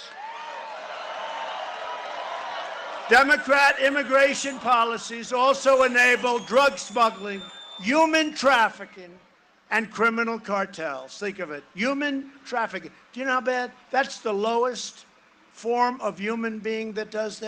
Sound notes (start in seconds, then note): 7.8 cheering and applause